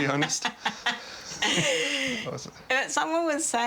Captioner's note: laughter